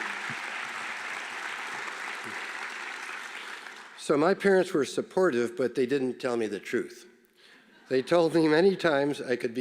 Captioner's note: applause